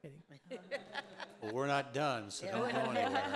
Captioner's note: audience laughing